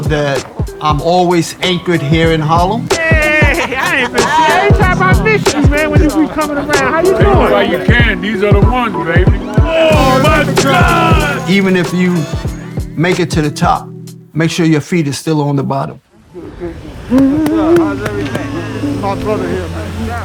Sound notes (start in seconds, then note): 3.1 people greeting; 5.6 people mumbling; 17.2 person wailing